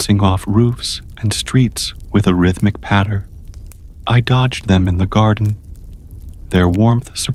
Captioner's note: soft patter of falling stones